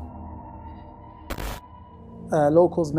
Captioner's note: static crackling